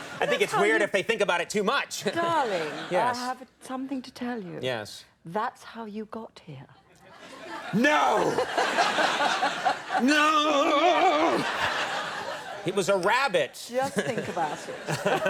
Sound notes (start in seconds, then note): 0.0 audience laughing; 9.9 Helen laughs; 11.2 audience laughing